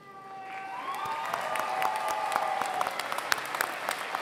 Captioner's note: applause